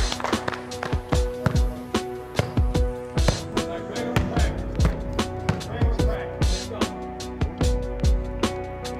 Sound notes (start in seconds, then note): 0.8 ball bouncing; 3.4 guys chattering